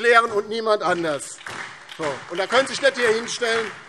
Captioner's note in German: Beifall DIE LINKE, SPD und vereinzelt Freie Demokraten